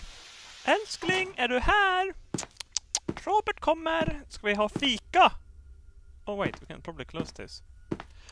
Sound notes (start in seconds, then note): 0.6 Swedish